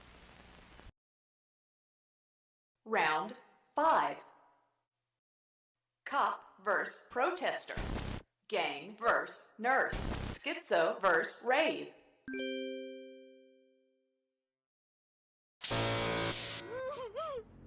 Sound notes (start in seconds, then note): 12.3 ding, chime; 15.6 buzzer